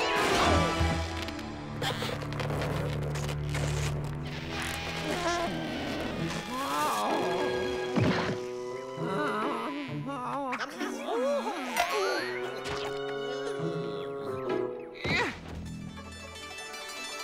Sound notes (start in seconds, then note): 6.1 pained groans